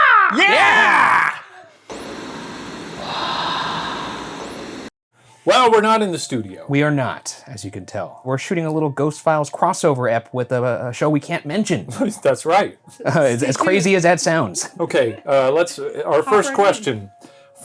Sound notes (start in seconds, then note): 1.9 static hissing; 3.3 ghostly Voice; 12.0 chuckles; 15.0 chuckling